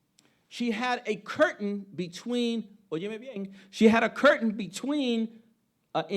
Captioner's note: speaking Spanish